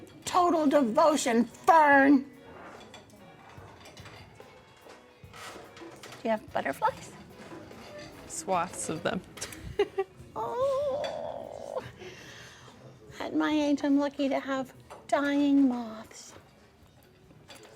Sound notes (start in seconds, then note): 0.0 silverware clanks; 9.4 laughs